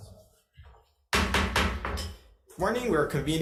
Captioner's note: gavel thudding